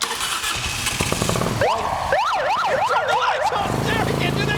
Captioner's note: motor engine revs